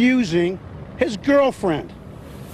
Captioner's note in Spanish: habla en ingés